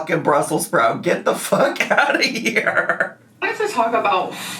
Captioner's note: laughs